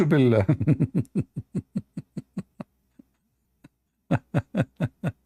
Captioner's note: Ketawa